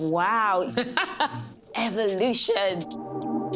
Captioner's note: laughs